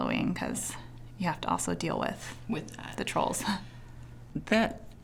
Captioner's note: chuckling